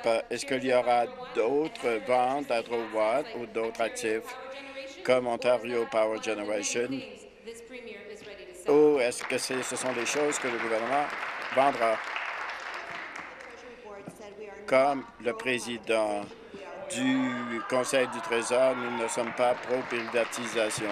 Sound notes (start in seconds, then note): 12.0 applause